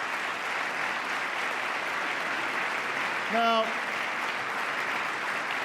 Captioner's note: applause